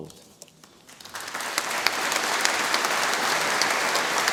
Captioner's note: audience applauding